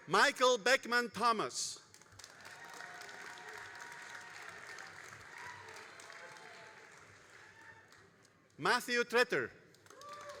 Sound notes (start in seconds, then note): 1.9 all applauding and cheering